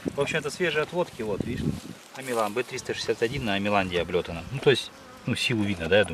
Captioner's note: bees